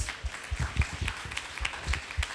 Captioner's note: applause